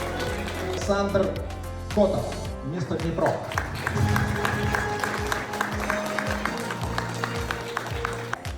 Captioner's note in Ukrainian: оплески